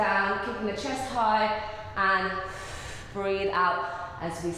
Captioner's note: breathing